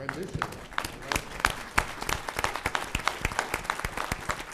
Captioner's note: applause